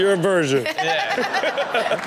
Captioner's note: Chanel laughs